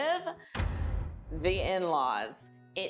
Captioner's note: canon boom